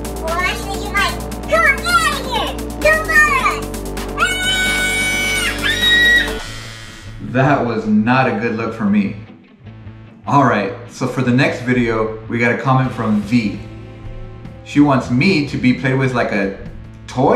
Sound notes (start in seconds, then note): 4.2 manly yell; 5.6 scream